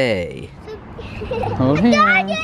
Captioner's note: giggling